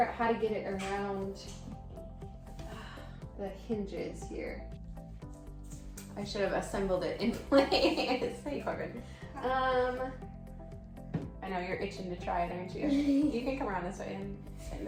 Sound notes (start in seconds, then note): 8.1 laughing; 12.8 laughing